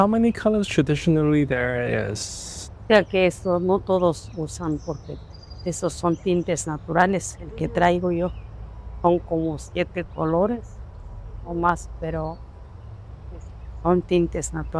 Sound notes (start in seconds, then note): 2.8 speaking spanish